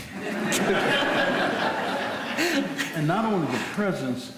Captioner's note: people are laughing